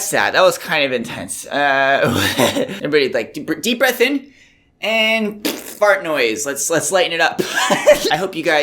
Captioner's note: fart noise